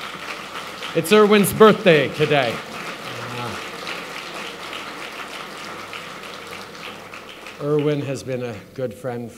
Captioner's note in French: Applaudissements